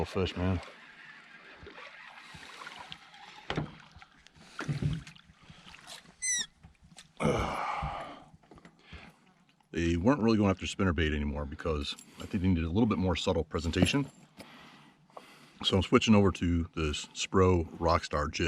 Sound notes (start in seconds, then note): 2.3 squeaking